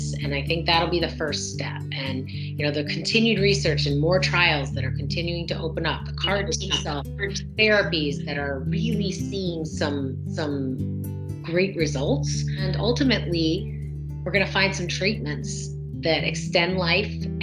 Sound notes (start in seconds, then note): 6.2 video breaking up